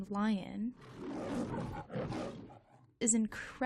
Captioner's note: lion roars